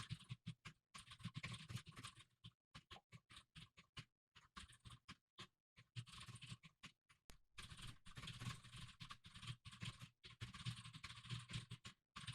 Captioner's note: typing sounds